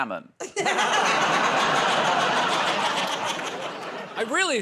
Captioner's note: laughter